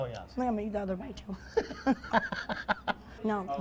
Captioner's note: laughs